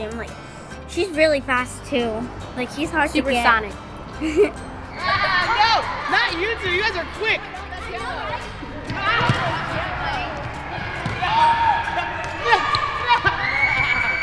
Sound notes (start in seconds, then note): 7.6 children playing